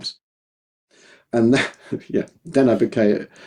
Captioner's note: laughs